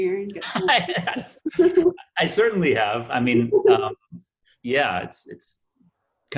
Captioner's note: laughs